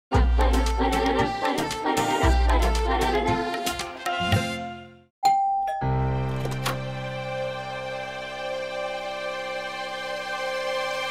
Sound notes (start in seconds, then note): 5.2 doorbell rings; 6.2 door opens